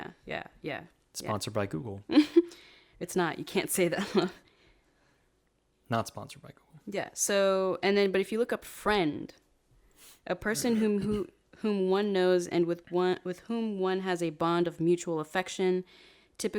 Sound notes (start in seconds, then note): 2.4 laughs; 5.2 chuckles